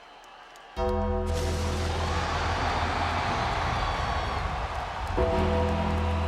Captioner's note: bell tolling; lightning cracking